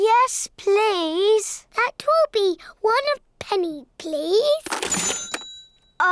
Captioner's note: dings